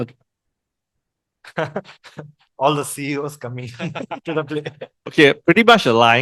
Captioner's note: laughters